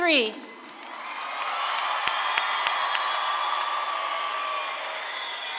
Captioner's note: audience claps and cheers